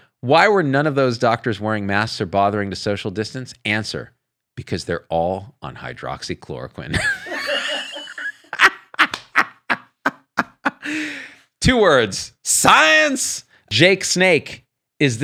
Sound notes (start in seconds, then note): 6.9 laughs